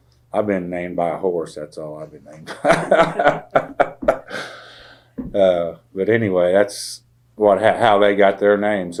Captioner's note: laughter